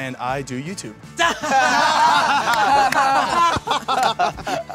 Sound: laughing

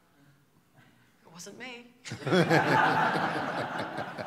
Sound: laughter

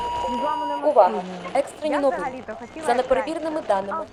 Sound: radio

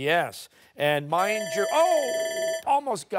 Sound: timer

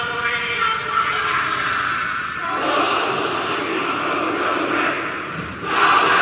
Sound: chanting in foreign language

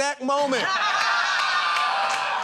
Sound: laughter

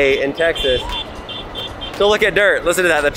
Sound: honking

